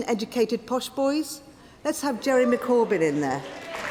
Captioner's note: applause